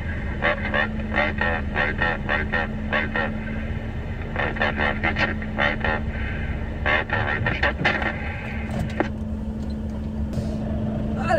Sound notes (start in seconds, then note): 2.2 German talking